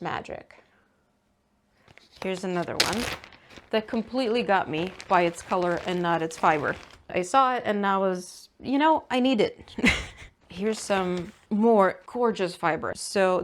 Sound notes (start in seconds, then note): 1.8 ziplock opens; 9.8 laughs